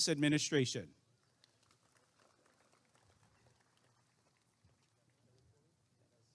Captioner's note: applause and cheering